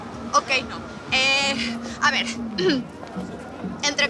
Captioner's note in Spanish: Carraspea